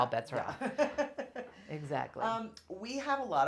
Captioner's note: laughs